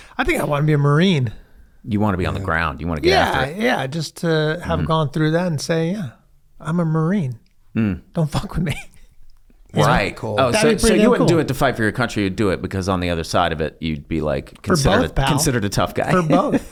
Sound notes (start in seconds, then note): 10.4 laughs